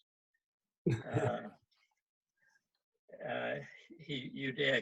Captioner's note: chuckles